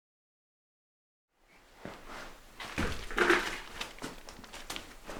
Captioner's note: footsteps